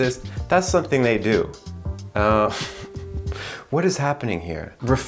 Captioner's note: laughs